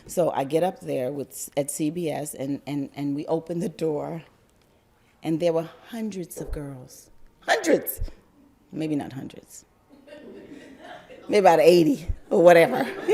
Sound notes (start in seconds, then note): 10.0 crowd laugther